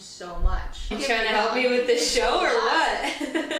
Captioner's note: laughing